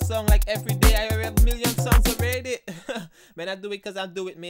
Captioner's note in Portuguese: risada